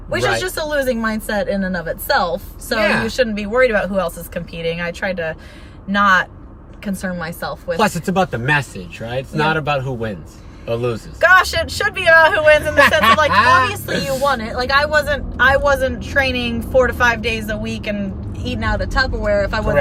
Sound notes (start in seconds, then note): 12.2 laughing